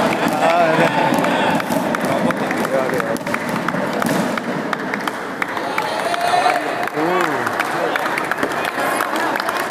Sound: applause

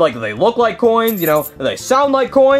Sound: coins jingling

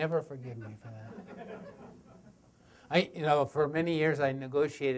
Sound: audience laughter

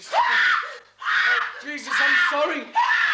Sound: Sandra screams

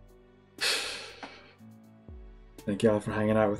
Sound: exhales

